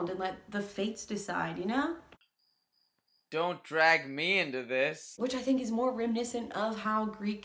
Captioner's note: crickets